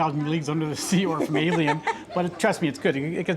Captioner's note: laughs